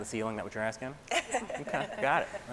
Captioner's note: laughing